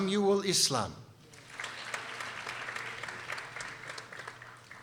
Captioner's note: people applauding